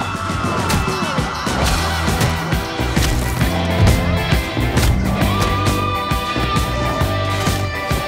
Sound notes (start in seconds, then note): 0.7 Translucent grunts; 1.9 head thuds; 3.4 punches thudding